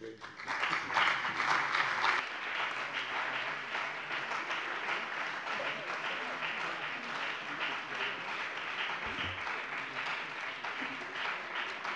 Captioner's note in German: Beifall bei dem BÜNDNIS 90/DIE GRÜNEN und der CDU